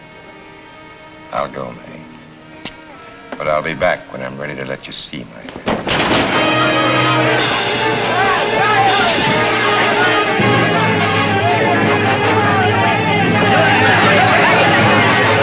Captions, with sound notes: - I'll go, Mae, but I'll be back when I'm ready to let you see my hand. (table crashes) (dramatic, exciting music)